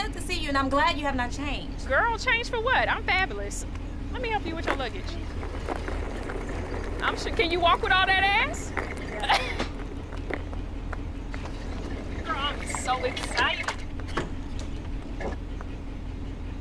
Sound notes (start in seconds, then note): 8.9 chuckles